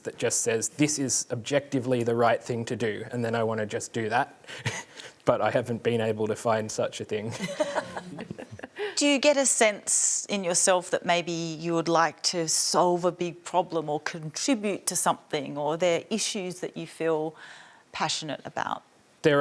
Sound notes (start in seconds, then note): 7.3 laughter